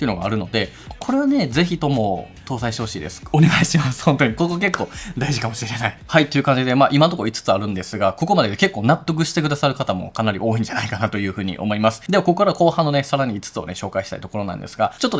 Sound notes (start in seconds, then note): 3.3 laughs